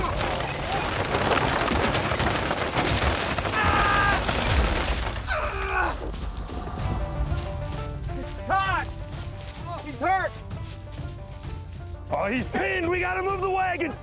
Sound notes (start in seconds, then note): 0.3 wagon rolling; 4.4 wagon rolls over man; 5.5 man groans